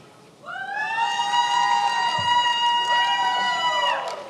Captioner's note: attendees applauding